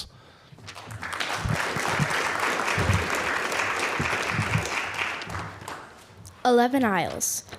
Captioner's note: applause